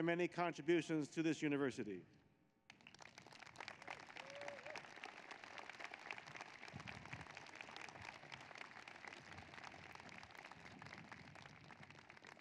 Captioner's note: applause